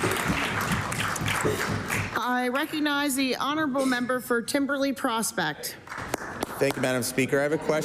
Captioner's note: applause